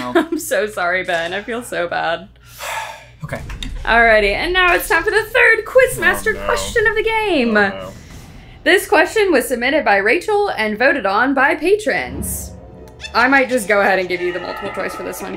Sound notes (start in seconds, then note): 3.0 sighs